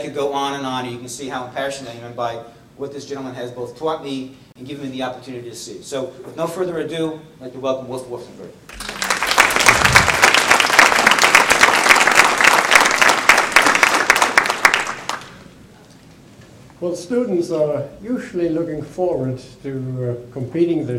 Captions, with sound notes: And I could go on and on and you can see how impassioned I am by what this gentleman has both taught me, and given me the opportunity to see. So with no further ado, I'd like to welcome Wolf Wolfensberger. (applause) Well, students are usually looking forward to completing